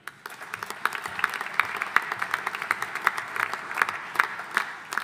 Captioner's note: audience applauding